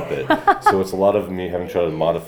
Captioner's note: laughs